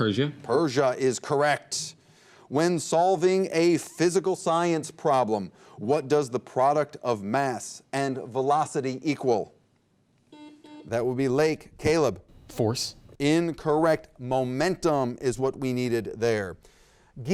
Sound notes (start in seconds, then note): 10.3 buzzer beep